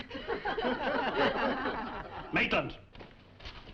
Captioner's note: students laughing